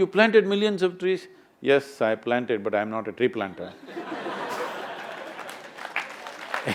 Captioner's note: laughter/Applause